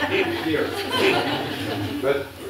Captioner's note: laughter